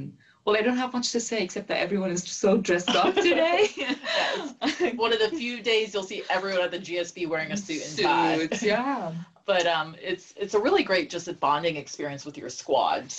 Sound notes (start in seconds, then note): 2.8 laugh